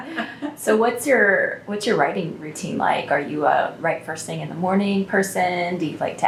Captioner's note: laughter